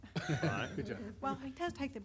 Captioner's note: laughs